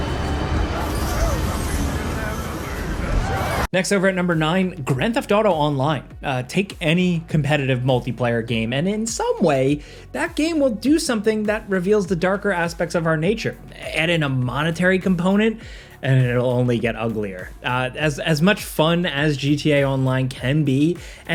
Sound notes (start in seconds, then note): 0.0 magic sparkling